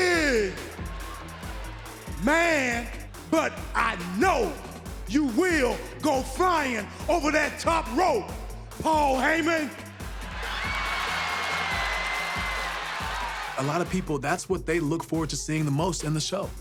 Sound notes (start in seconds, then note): 10.4 applause